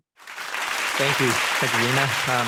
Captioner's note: audience clapping